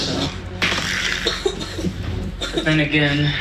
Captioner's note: coughing